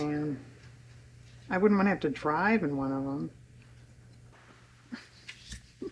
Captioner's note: laughs